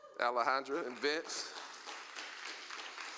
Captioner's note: applause